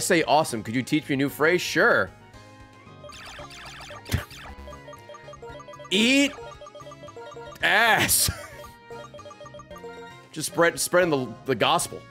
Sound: laughs

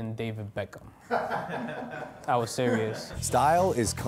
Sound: laughs

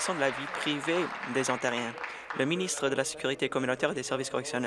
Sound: applause

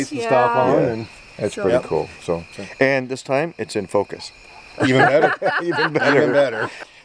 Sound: laughter

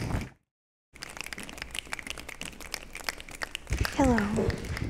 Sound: applause

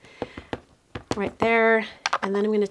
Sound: ink pad tapping

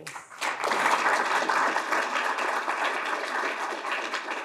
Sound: crowd clapping

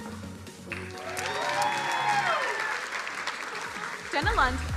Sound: crowd cheering

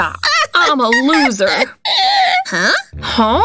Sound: uncontrollable laughter

